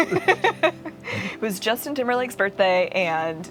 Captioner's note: laughing